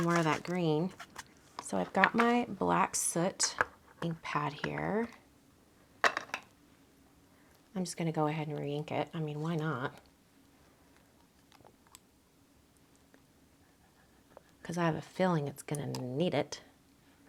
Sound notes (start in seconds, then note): 6.0 lid clatters